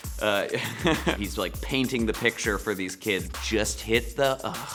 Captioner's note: laughs